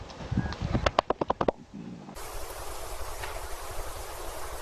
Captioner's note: chest slapping